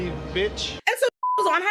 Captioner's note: beep